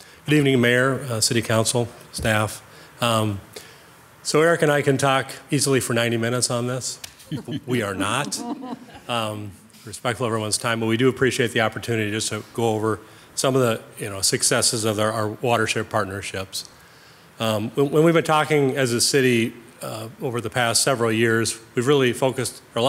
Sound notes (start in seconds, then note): 7.2 people chuckle